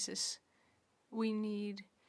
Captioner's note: speaking French